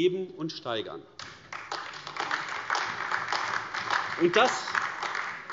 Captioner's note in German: Beifall AfD